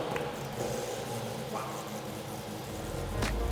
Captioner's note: whispers